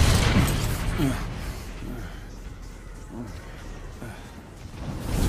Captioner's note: gasping, grunting